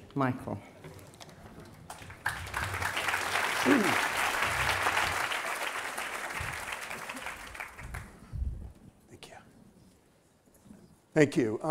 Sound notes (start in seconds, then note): 1.8 applause